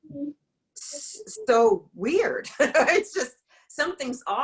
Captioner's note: laughs